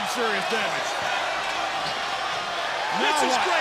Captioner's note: crowd chatter